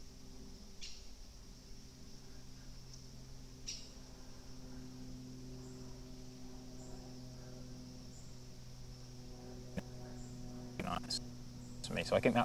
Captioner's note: break in transmission